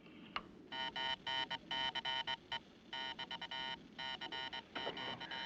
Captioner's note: Zumbido, clicando